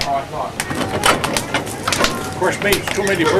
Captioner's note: doors clanging; fire crackling